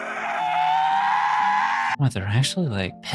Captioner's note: screaming